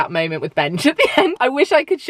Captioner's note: laughing